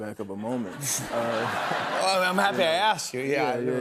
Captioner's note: laughter